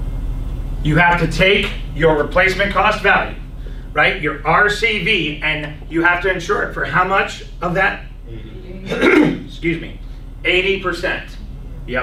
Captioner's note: clears throat